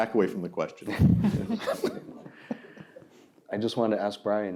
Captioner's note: laughter